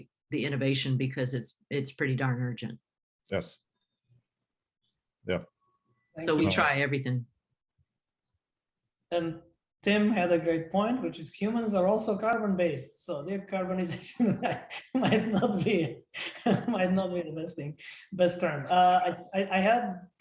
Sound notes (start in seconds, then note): 16.5 laughter